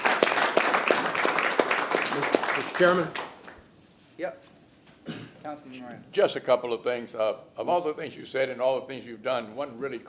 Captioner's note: applause